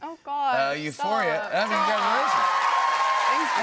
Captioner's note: cheers and applause